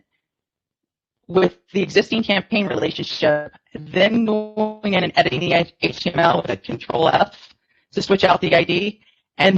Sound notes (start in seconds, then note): 5.6 audio distortion